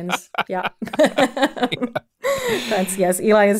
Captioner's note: pair laughing